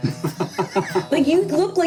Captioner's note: laughing